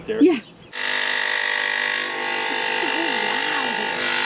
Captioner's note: saw whirring